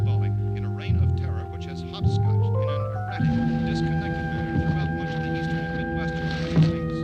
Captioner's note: murmuring